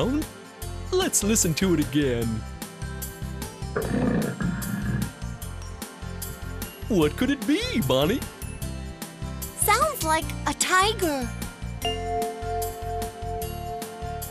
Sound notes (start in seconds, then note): 3.7 sound of a tiger; 11.8 bell chimes